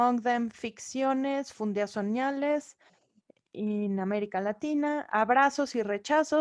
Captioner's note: speaking in foreign language